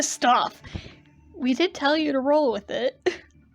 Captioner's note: laughs